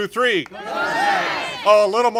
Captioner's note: congregation shouting